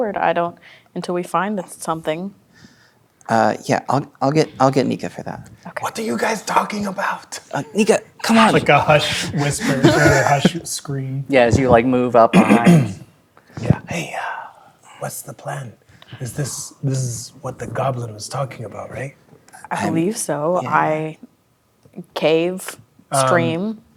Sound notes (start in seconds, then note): 6.4 whispering; 8.4 whispers; 12.3 clears throat; 14.0 whispering